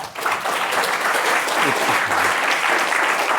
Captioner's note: applause